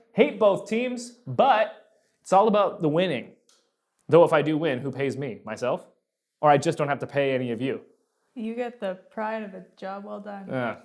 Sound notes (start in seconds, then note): none